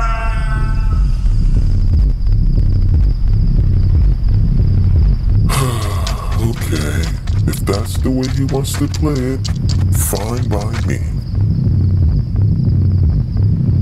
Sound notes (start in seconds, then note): 0.0 Papi screams; 5.4 sighs